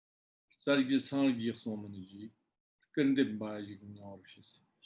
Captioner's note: tibetan